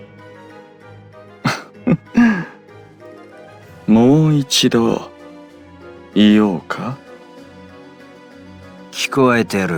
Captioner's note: laugh